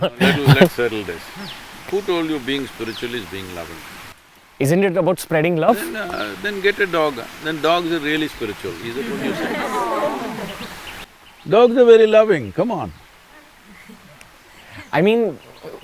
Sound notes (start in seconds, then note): 8.6 laughter